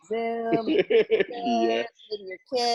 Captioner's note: laughs